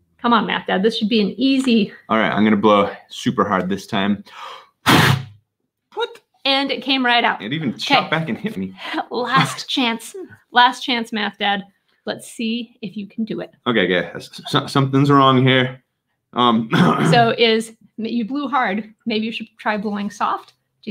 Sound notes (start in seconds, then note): 4.8 bottle echos; 9.2 chuckling; 16.6 clears throat